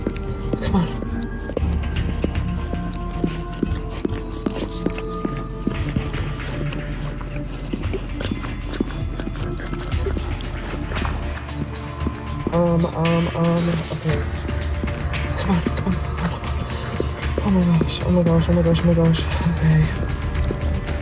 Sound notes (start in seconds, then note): 2.3 sound Of Dog Licking; 20.8 puppy Whining